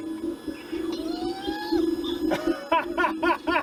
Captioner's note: screams; laughs